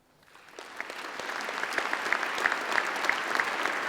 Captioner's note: applause